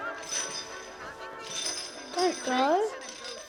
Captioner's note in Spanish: música de ukelele; invitados charlando; traqueteo de la cadena